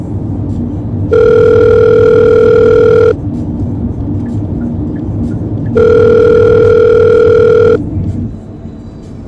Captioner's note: phone ringing